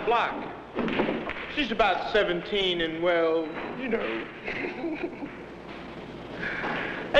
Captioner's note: chuckles